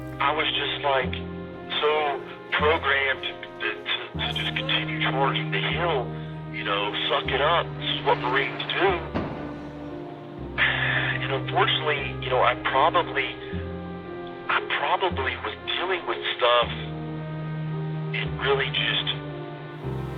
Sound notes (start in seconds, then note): 11.0 sighs